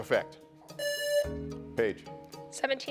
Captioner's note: buzzer rings